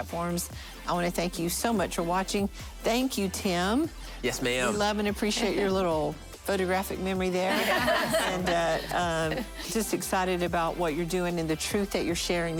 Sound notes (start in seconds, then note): 9.1 laughing